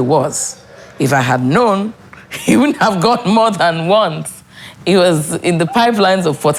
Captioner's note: laughs